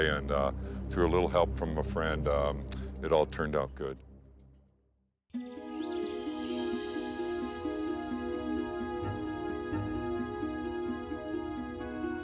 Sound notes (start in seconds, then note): 5.3 bright music; 5.6 birds chirping